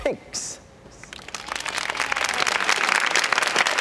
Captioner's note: applause